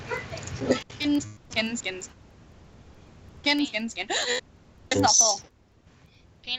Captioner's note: gasp